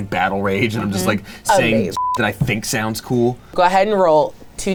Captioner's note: beep